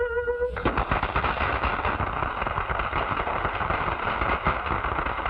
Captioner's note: applause